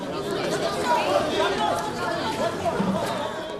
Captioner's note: reporters clamoring